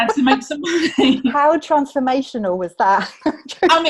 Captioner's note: laughs